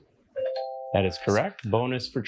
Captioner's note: bell dings